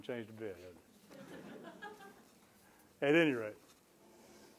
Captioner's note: laughter